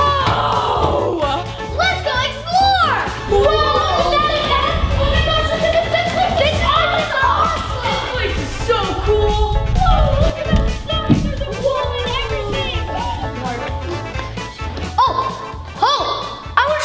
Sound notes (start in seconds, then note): 4.0 excited chatter